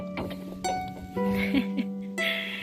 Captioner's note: laughing